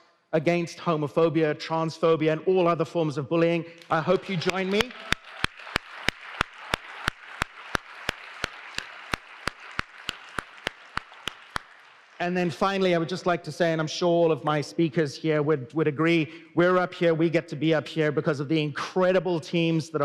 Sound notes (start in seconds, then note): 8.0 applause